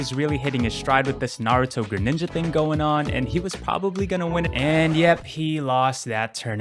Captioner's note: record scratch